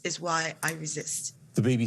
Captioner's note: soundbite of archived recording